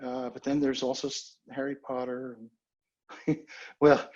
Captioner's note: chuckles